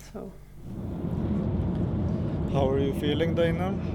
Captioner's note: car humming